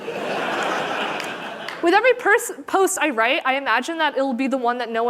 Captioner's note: laughter